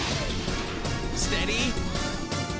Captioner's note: mechanical whir